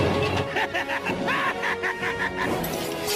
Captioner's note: evil laughs